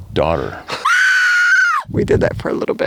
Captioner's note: screaming